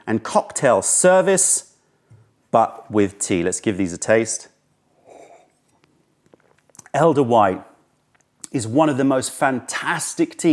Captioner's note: sips tea